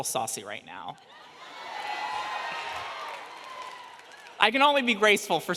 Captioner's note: audience cheers